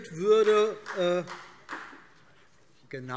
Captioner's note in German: Demonstrativer Beifall